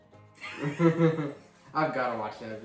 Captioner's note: laughter